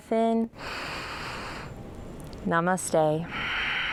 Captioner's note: deep breathing